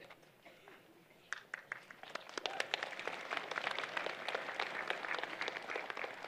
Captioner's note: applause